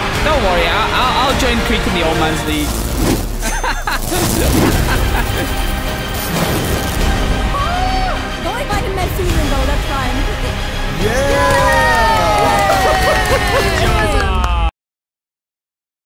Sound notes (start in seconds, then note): 3.0 dramatic music; 3.4 laughs; 10.9 group cheers